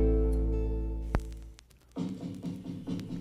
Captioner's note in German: Plattenspielerknistern